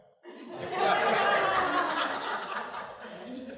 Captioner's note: laughter